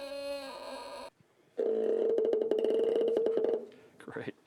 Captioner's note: low-pitched squeaking